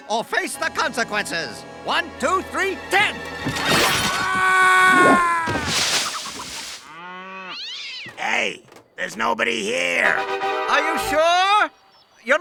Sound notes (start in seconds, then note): 5.6 screaming; 7.2 thudding; 7.4 cat yowling